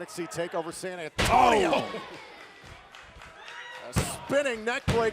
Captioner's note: crowd cheering